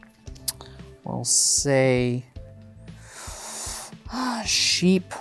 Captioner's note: inhales deeply